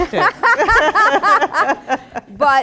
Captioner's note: laughter